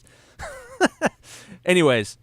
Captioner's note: laughs